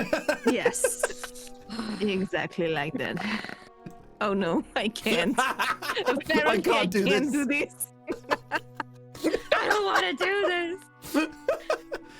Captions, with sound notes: Yes, exactly like that. Oh, no, I can't. [Laughter] I can't do this. I can't do this. I don't want to do this.